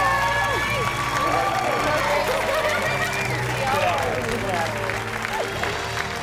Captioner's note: audience continues cheering and applauding